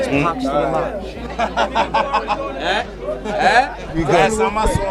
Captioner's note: laughing